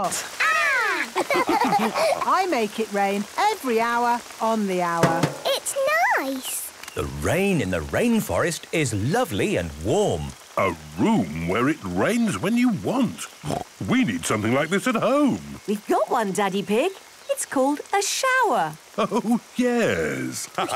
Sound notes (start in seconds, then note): 1.0 all laughing; 5.0 taps